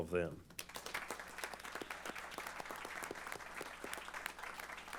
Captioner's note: applause